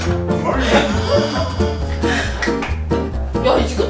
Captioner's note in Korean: 띠용, 효과음